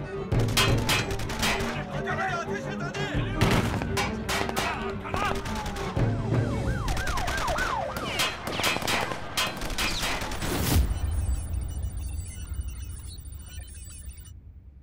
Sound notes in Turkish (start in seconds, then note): 4.8 Polis siren sesi; 6.8 Silah sesleri